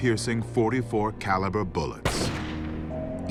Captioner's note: shot